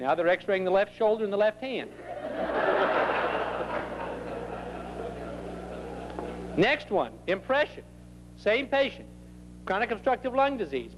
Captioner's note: more laughter